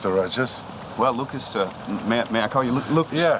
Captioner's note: laughing